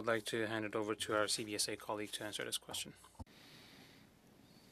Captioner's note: speaking French